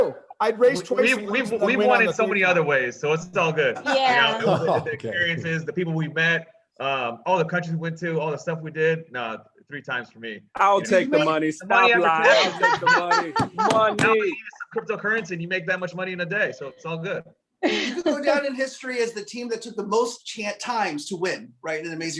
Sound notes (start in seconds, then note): 16.3 laughs